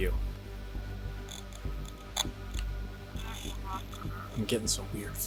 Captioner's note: static crackling